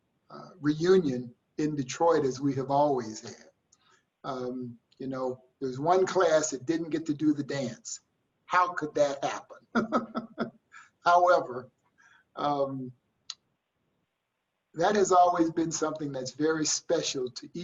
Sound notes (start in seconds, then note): 9.7 laughs